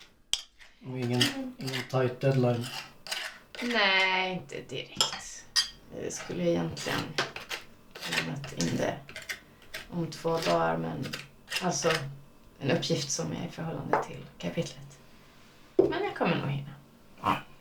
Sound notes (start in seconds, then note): none